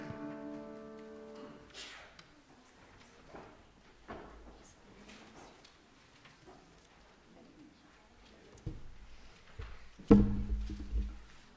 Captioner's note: no speech